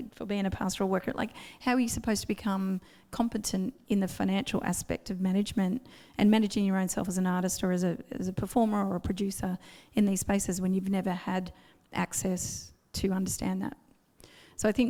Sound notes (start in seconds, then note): none